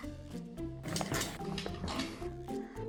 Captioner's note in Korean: 손으로 긁는 소리